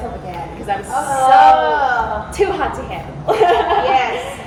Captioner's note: laughs